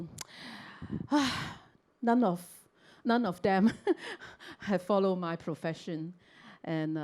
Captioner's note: sighs